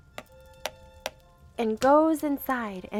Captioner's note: door knocking